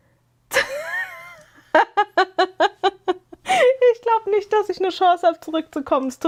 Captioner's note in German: gelächter